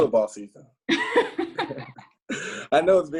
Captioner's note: both laugh